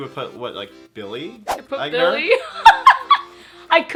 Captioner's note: laughs